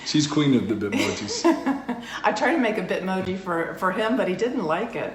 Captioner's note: laughs